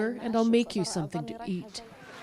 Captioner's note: speaking alternate language